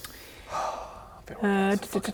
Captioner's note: contented sigh